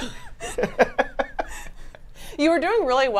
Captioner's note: laugh